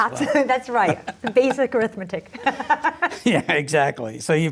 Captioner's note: laughs